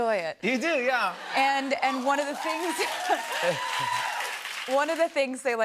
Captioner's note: cheers and applause